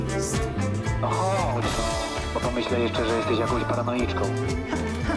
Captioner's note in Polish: przez megafon